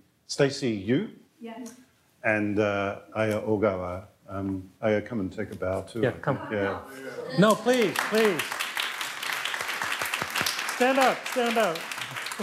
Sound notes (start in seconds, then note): 7.3 audience applauds